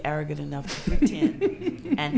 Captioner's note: laughs